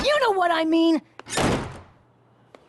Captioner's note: slam!